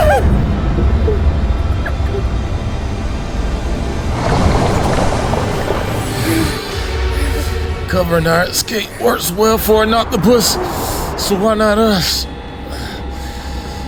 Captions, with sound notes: (water bubbling) Covering our escape works well for an octopus. So why not us?